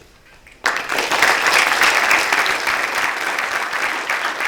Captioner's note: applause